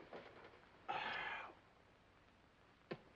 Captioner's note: exhales